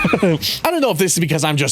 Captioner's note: laughs